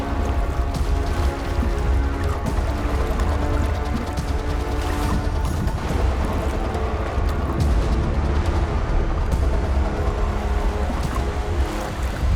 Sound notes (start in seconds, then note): 2.7 water lightly splashing